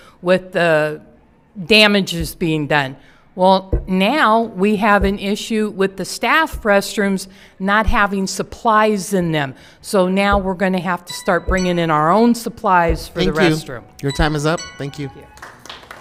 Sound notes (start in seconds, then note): 10.8 alarm chimes; 15.2 applause